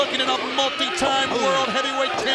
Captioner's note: crowd cheering